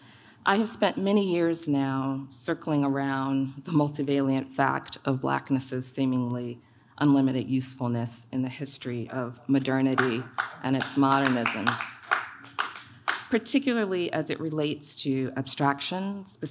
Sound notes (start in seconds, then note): 11.6 audience claps